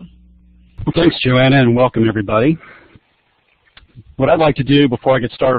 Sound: voiceover

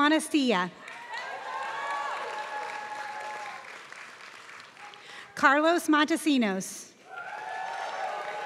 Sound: applause; applause

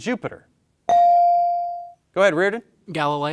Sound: bell ringing

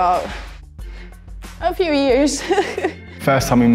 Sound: laughs

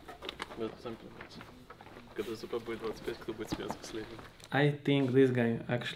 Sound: speaking in Russian

